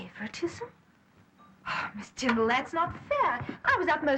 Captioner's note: sighs